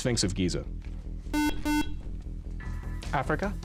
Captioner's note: buzzer